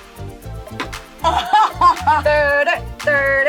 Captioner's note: laughs